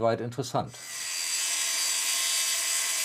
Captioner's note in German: Sägegeräusch im Video